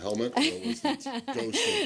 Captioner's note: laughter